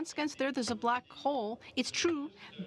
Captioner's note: speaking in french